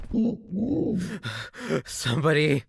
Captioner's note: heavy breathing